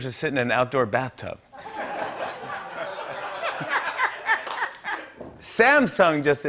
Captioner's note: laughter